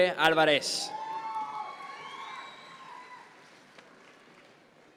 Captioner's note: audience members cheer